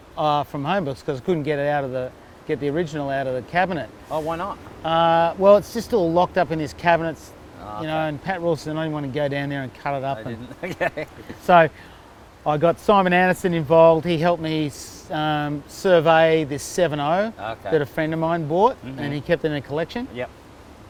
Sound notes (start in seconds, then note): 10.2 laughs